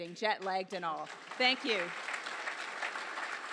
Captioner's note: audience applauds